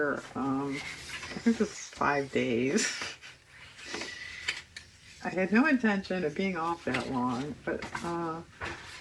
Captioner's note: laughs